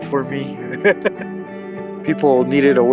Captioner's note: laughing